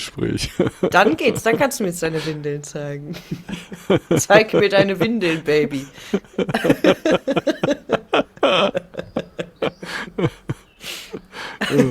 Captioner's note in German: gelächter